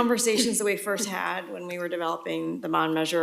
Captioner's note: laughter